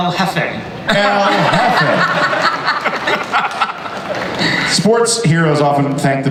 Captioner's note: audience and panelists laugh